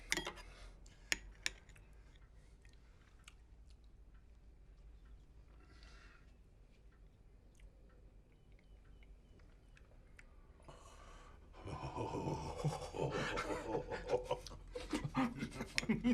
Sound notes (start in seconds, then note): 11.5 laughing